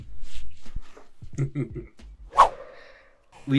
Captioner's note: chuckles